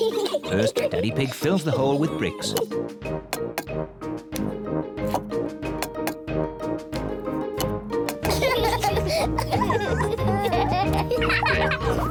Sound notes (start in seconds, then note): 8.2 both laugh